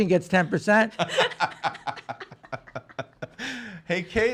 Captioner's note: laughing